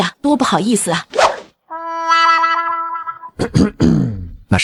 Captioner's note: cough cough